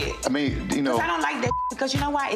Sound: beep

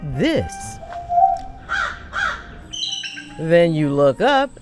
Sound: birds chirping

